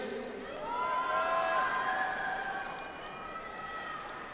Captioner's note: audience applauds